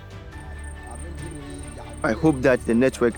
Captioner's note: workers chatting